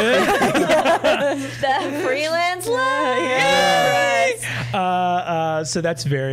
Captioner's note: all laughing; all mock cheering